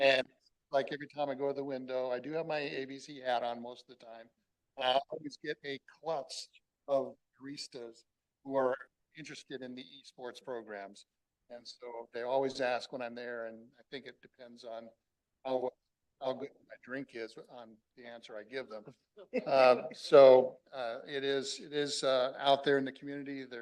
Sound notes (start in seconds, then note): 19.3 laughter